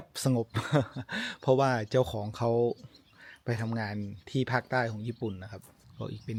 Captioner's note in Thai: เสียงหัวเราะ